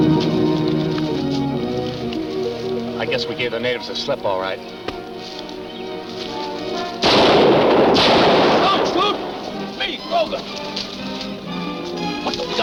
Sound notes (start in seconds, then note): 7.0 gun firing